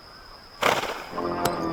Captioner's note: horse snorts